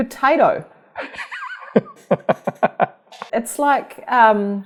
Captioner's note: laughs